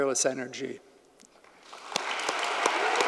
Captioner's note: audience applauding; claps